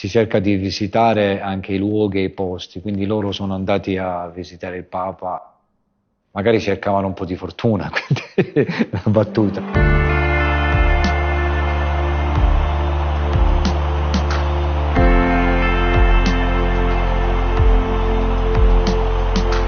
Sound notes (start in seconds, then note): 9.0 laughs; 11.6 crowd cheering